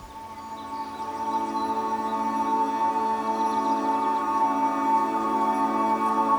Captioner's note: birds chirping; peaceful music